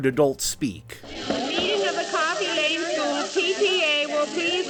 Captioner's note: disembodied voice